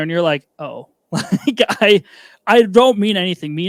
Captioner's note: laughing